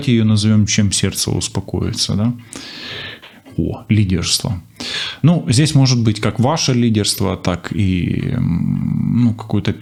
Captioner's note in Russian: фыркает